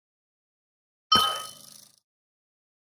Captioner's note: ding